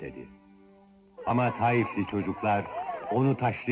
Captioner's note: children shouting